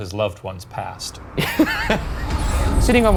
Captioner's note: laughing